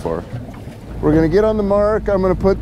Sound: boat engine running

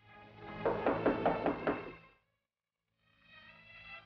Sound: door knocking

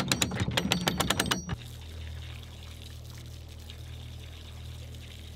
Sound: water running

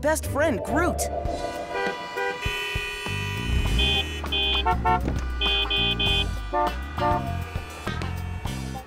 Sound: car horns blasting

